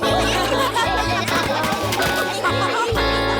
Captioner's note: laughter